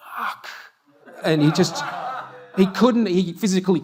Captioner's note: audience laughter